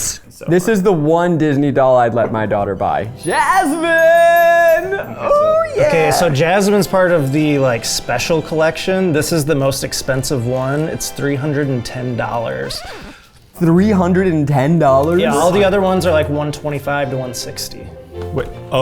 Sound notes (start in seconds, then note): 12.7 record scratches